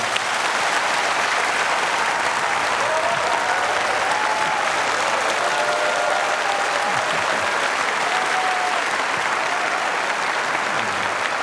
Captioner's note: applause